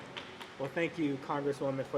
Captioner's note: applause